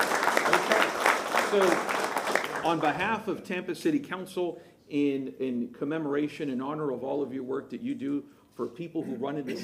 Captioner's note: applause